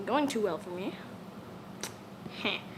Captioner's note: smack